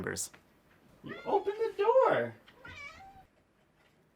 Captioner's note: meow!